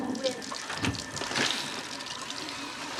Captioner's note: flushing